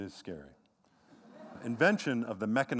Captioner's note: laughter